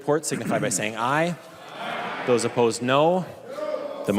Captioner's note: chorus of ayes